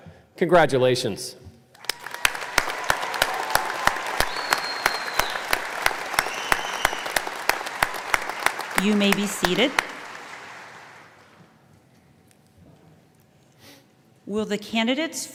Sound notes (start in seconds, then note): 4.7 applause